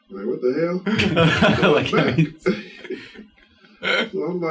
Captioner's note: all laughing